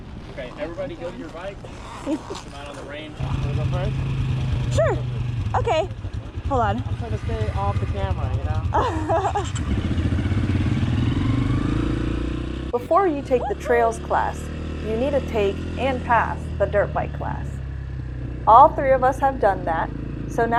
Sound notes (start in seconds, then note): 8.7 laughing; 9.5 bike engines roaring